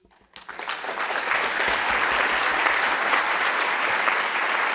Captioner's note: audience clapping